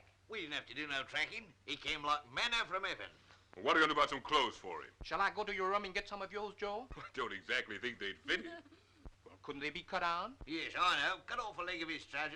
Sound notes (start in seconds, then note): 8.2 Gerald laughing